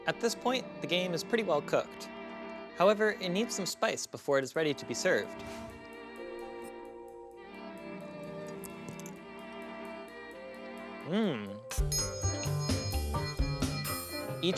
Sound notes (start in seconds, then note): 6.4 relaxing music; 8.4 chewing; 11.8 triangle rings